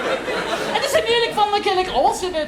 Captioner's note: moving on, still speaking “Czech”